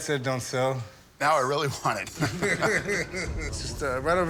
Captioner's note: laughter